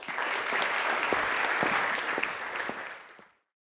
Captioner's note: applause